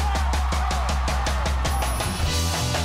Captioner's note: cheers and applause